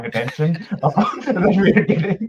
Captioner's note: all laughing